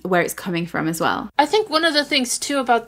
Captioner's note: none